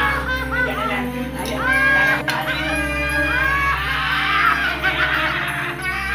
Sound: cackling

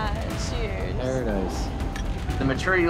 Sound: glasses clinking

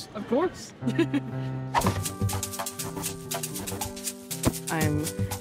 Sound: chuckles; air whooshing; upbeat pop music

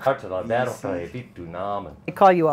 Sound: speaking a foreign language

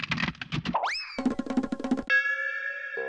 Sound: ding

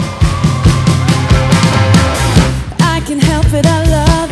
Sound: christmas rock music; crowd cheering

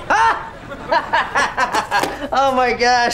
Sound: laughing

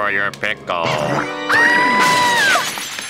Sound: screaming

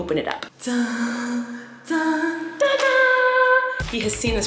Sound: imitates dramatic music

